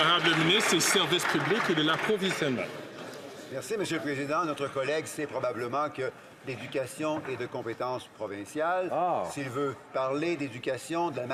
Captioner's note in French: applaudissements